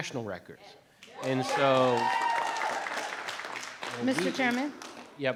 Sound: audience applauding

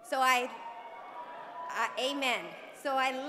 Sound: applause

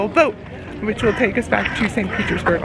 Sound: bird cawing

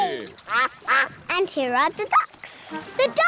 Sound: quacking

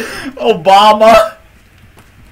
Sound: laughing; laughter

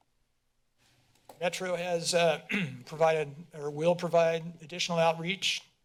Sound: clears throat

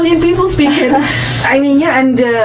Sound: laughs

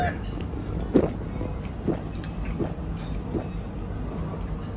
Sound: glug glug

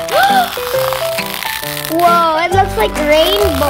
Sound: gasps and slime stretching

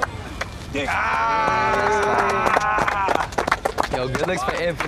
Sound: applause

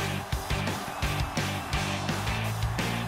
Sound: cheering

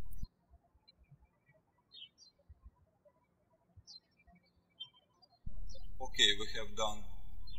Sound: birds chirping

